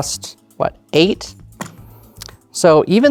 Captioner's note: tokens clattering